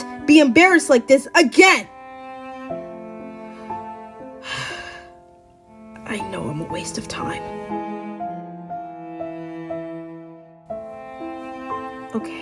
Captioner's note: pauses and sighs